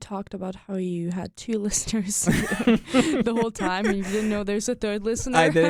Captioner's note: both laugh